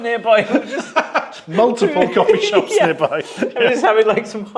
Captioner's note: laughs